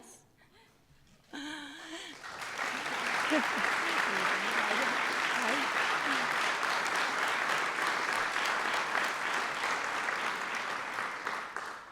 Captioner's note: applause